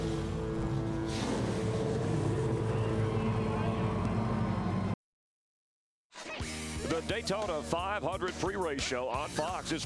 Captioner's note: cheers and applause